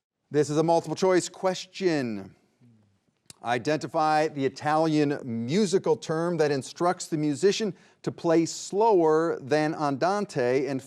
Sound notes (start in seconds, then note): none